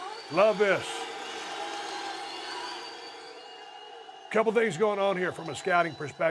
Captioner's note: applause